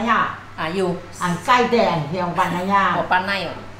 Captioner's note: hakka dialect